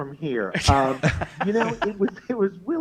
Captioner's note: both laugh